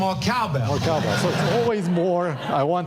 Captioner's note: audience laughing